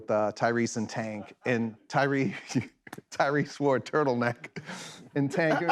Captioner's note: laughs